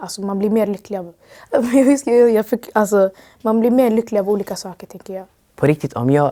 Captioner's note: laughs